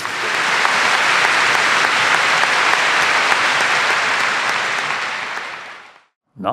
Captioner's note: applause